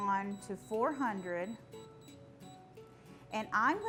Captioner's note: air fryer beeping